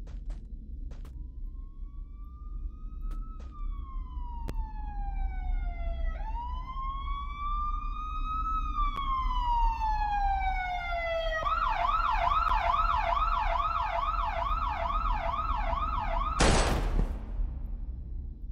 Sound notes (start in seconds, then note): 1.0 police siren; 16.4 gunshot